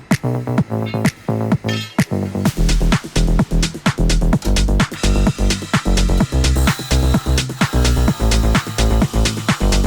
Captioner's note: chop saw